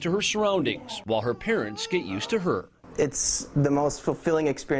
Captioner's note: crying